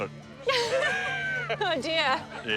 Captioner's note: laughs